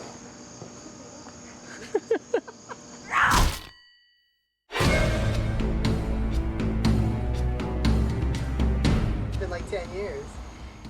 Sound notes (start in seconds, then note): 1.6 laughter; 3.1 shovel smack